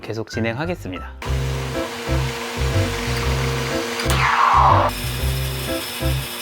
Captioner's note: steaming with a gentle sound